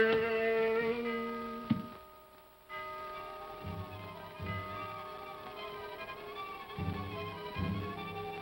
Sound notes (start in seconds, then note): 1.1 clock chimes; 2.8 tense haunting music